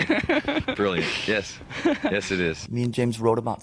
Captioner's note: both laugh